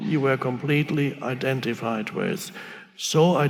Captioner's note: none